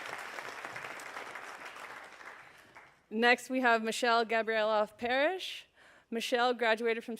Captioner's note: applause